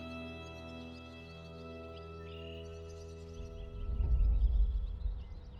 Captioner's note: birds chirping